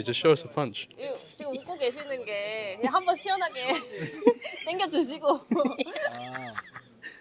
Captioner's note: laughs